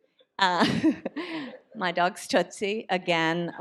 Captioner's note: chuckles